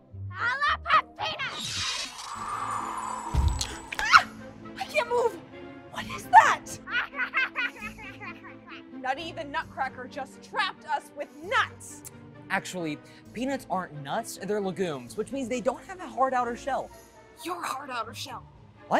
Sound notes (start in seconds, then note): 1.5 breeze; 3.3 pop; 4.5 screams; 6.6 maniacally Laughing